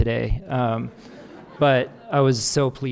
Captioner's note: audience laughing